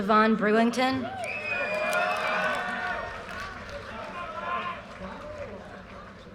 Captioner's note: audience cheers and applause